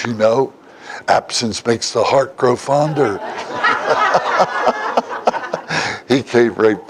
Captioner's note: Смех